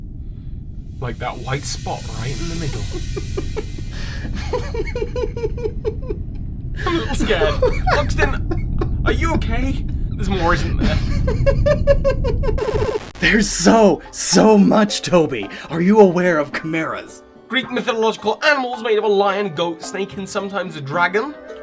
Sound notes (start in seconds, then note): 2.8 maniacal laughter